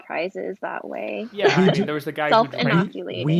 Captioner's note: laughs